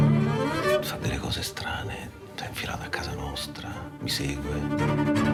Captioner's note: speaking Italian